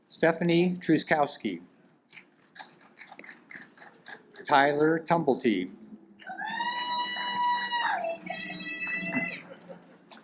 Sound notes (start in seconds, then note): 6.2 woman cheers